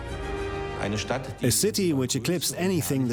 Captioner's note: man's voice